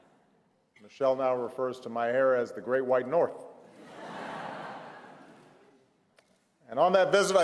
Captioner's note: laughter